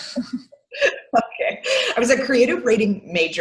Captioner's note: chuckles